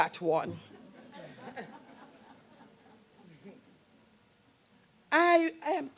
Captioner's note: laughter